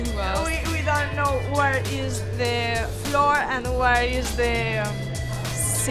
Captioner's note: none